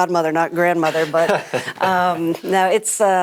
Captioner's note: laughs